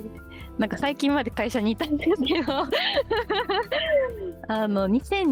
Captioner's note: laughs